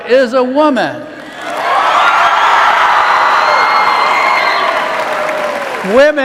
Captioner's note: cheers